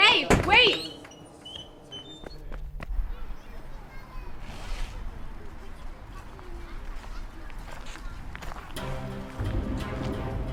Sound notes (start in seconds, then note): 4.7 players chattering